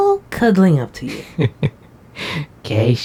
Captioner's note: Vixen chuckles